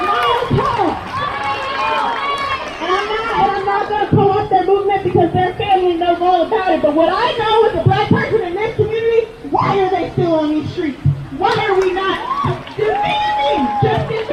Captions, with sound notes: MILES HALL! [crowd] MILES HALL! I'M NOT GOING TO TELL HIS STORY BECAUSE THEIR FAMILY KNOWS ALL ABOUT IT, BUT WHAT I KNOW AS A BLACK PERSON IN THIS COMMUNITY, WHY ARE THEY STILL ON THESE STREETS? WHY ARE WE NOT DEMANDING JUSTICE